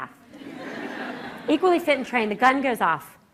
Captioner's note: laughter